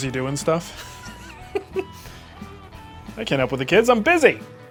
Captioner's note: laughing